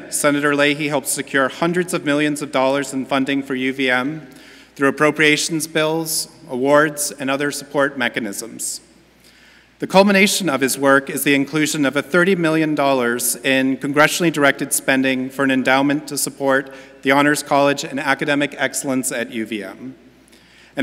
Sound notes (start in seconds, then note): none